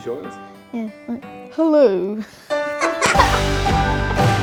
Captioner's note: laughs